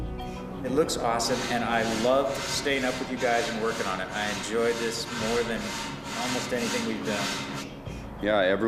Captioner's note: none